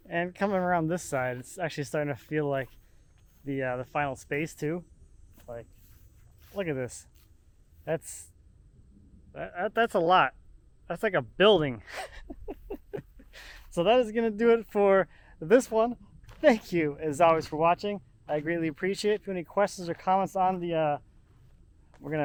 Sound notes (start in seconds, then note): 11.9 laughing